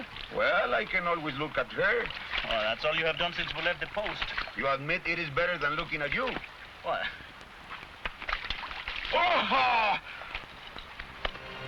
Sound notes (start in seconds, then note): 8.2 water splashing; 9.2 man shouts; 11.0 somber music